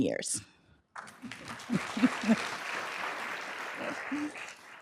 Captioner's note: applause